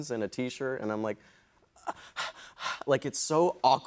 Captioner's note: breathing heavily